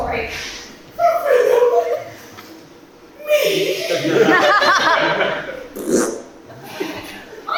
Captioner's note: fart noise